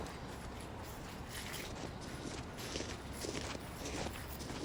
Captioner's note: footsteps rustling